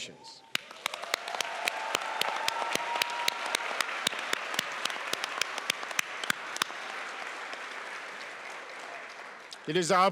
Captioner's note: applauds and cheers